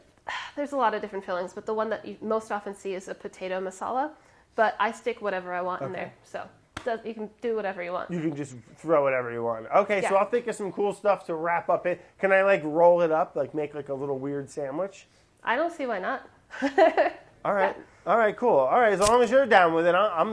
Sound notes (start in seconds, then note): 16.7 laughs